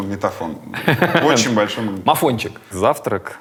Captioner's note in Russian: смеётся